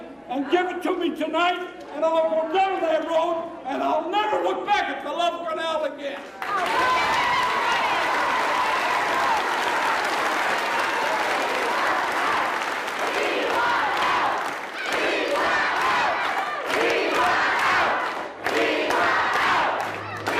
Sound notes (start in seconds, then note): 6.5 crowd cheering and applauding; 13.1 chanting